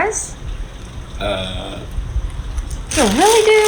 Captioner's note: delivery man stutters